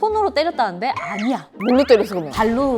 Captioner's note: flustered